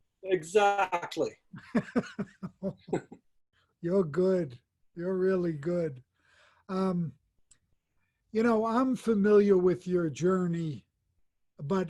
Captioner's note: laughs